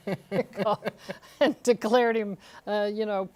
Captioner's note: laughter